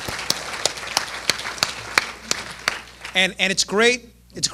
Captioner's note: applause